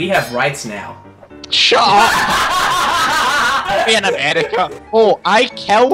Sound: laughter

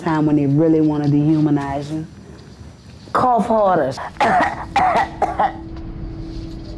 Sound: imitates coughing

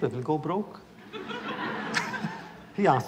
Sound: laughter

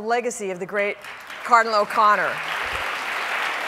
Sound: audience applauding

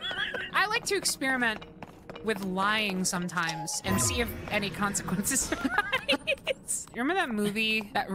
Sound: laughter; laughter

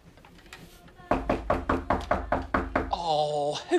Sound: knock at the door

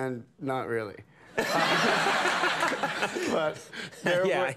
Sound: crowd laughs

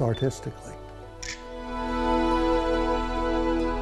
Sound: shutter click; violin and piano music

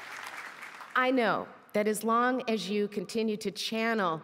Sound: applause

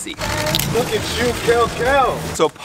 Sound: cameras snap

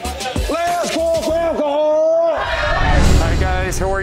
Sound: cheers

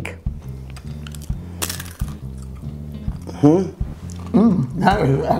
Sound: chips crunching

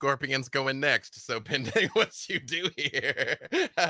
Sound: laughs

